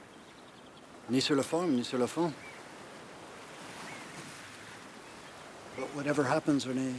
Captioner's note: Eric speaks in foreign language